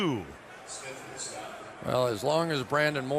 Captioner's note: stadium announcements